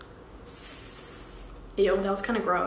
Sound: hisses

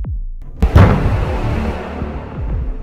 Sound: thudding more frequent

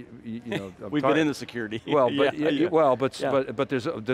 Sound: laughs

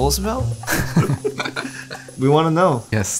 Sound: both laughing

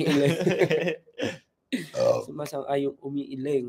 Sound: burp

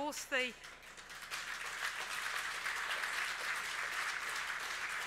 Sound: audience applauds

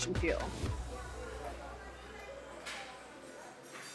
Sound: sounds of a busy airport can be heard

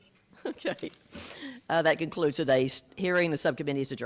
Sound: laughs

